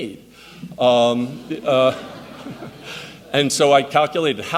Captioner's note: audience laughs